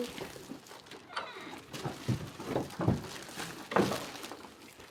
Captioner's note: gate creaking